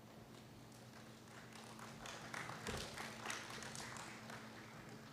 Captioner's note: applause